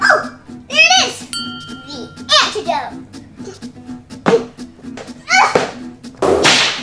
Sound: bell dings; whip cracks

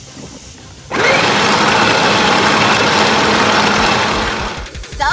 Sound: wheels spinning

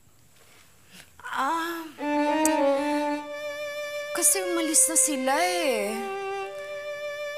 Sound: clicks tongue

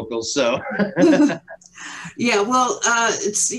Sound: all laughing

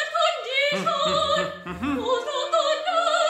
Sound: humming melodically

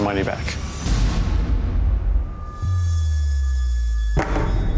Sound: impact slamming; tablet clattering

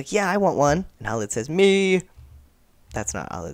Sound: weird voice

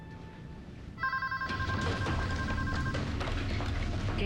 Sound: telephone rings

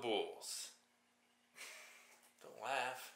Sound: snickers

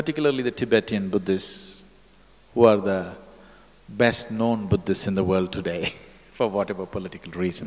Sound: laughs

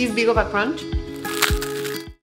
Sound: crunch

